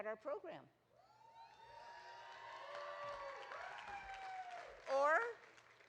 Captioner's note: audience cheering